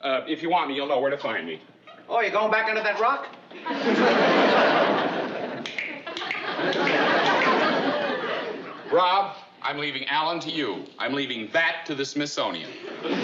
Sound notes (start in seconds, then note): 5.6 clicking